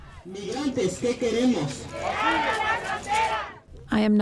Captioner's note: marchers chanting